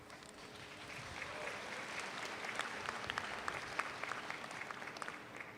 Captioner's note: audience applauds